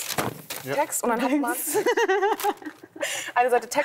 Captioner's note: laughter